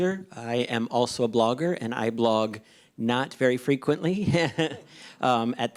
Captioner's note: laughs